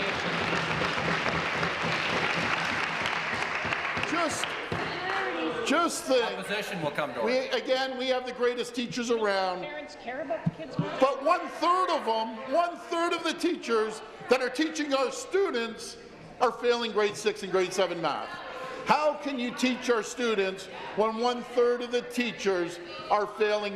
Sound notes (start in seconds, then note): 2.1 some Applause